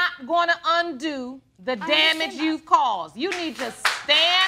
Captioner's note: audience applauds